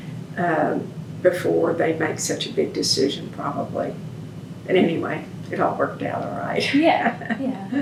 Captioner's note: laughs